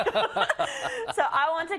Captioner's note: laugh